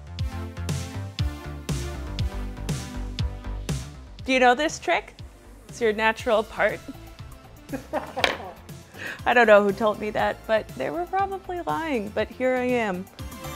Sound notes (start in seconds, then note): 0.1 upbeat music; 7.7 laughs